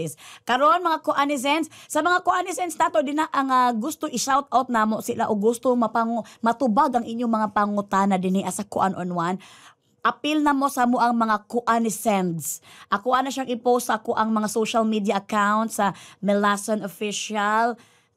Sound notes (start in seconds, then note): none